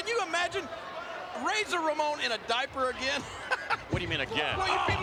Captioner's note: chuckling